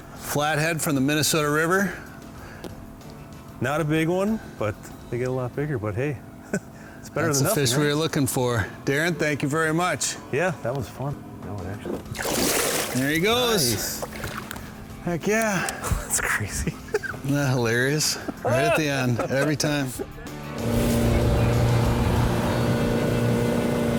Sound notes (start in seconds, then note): 12.0 water splashing; 20.7 boat motor humming